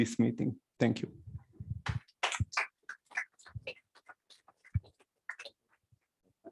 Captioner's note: applause